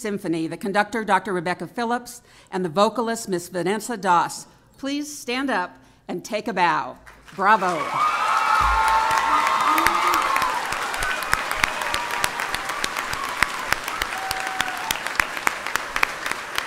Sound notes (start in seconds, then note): 9.1 applause